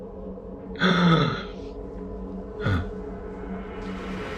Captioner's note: Ethan gasps